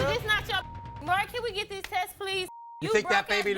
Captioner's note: beep